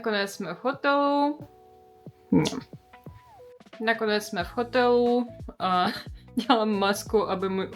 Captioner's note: angry noises